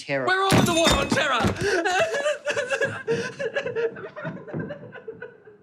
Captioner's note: crying